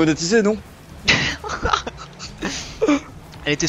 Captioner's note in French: rires